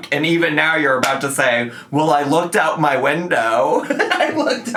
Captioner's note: laughs